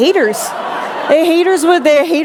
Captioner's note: laughter